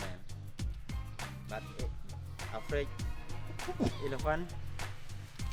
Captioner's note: chuckles